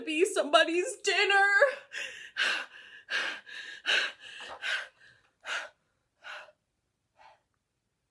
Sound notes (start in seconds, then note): 3.0 panting noise